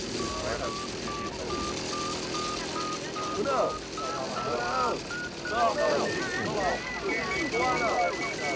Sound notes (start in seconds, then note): 0.0 rapid beeping; 5.6 very rapid beeping